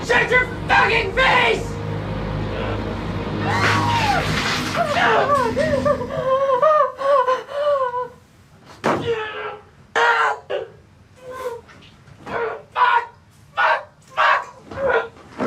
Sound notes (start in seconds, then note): 3.4 Gina screams; 3.8 glass shatters; 5.1 Gina whimpering; 9.3 Billy grunting